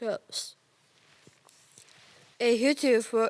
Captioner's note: rustling